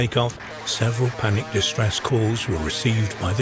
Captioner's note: static buzzing